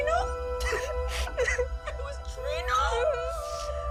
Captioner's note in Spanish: Sollozos